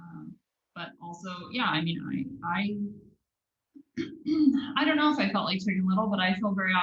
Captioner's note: cough